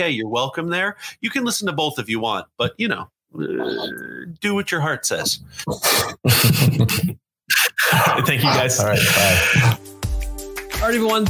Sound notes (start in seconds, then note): 5.9 panelists laughing; 8.0 upbeat music